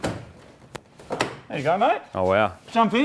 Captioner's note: door opens